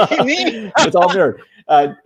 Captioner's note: laughing